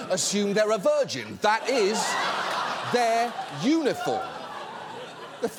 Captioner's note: audience laughs